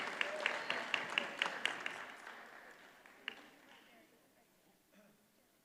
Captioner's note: audience cheers and applauds